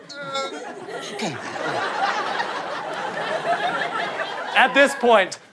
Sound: audience laughter

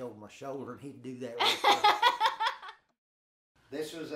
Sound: laughing

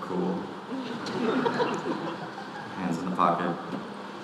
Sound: audience laughing

